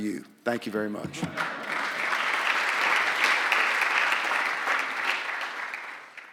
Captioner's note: applause